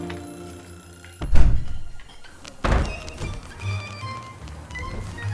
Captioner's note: banging